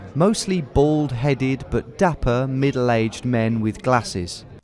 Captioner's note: none